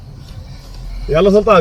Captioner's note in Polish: rozmowa po arabsku